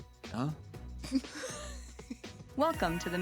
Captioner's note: laughing